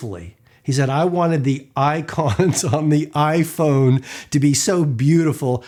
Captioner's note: laughs